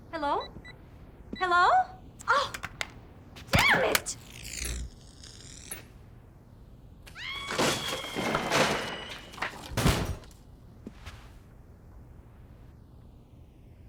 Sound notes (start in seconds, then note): 3.8 buzzing and zapping; 7.1 woman screams and windows break